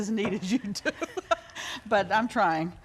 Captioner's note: laughter